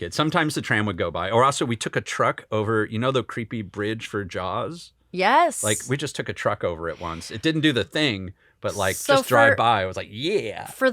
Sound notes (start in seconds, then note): none